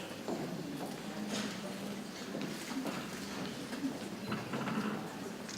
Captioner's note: people chattering softly